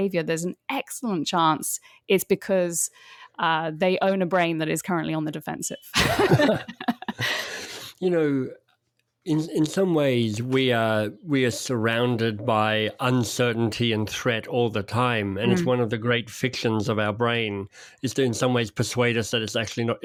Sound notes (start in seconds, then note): 5.9 both laughing